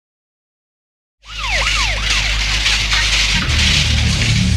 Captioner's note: sirens